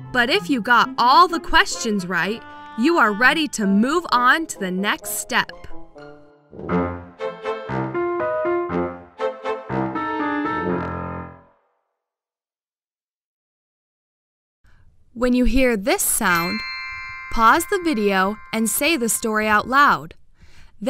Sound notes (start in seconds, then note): 6.4 upbeat music; 16.3 bells chime